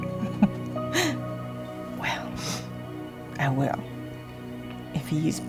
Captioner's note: laughs